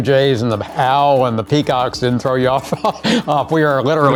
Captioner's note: chuckles